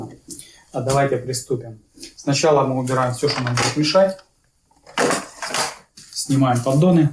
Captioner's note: стук